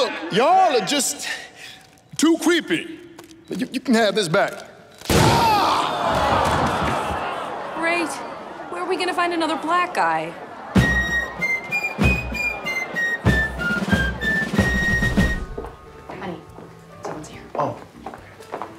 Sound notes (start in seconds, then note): 5.3 Terrell screams; 5.3 gun fires; 6.9 crowd oohs; 10.6 patriotic music